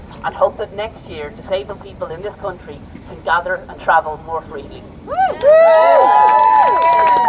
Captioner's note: applause